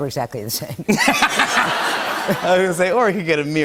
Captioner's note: laughter